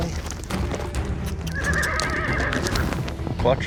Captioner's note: horse neighing